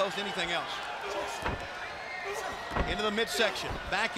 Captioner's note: crowd chatter